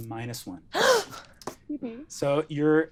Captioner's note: gasps